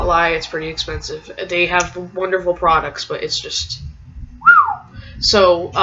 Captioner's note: whistle